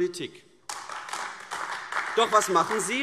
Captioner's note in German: Beifall AfD